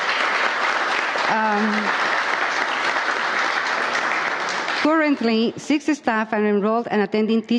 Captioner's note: applause